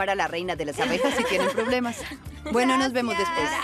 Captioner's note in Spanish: risas